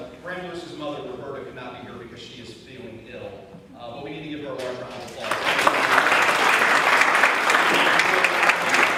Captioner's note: audience claps